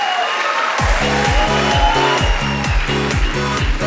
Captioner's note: audience applauding; upbeat music